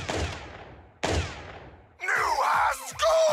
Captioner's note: gunshots